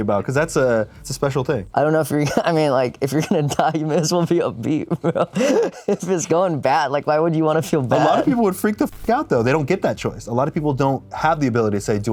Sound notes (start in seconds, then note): 4.8 laughs